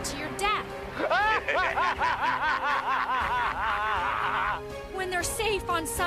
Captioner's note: laughing